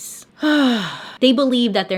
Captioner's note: sigh